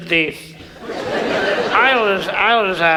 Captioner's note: audience laughs